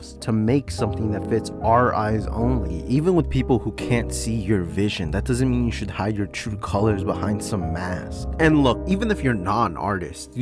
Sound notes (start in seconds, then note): none